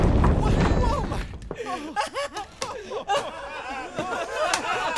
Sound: more crying

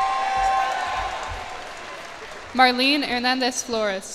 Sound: cheers and applause

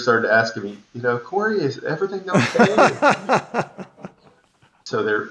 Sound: laughing

